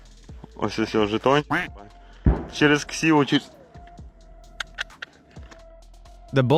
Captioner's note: speaking in foreign language